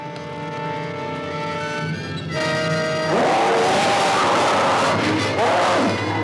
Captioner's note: horse whinnying